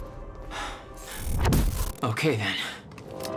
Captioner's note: breathing heavily